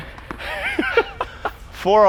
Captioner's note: laughs